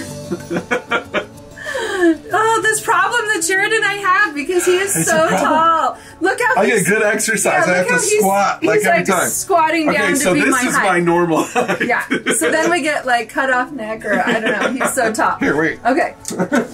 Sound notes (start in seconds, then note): 0.1 laughs; 11.3 laughs; 16.2 laughing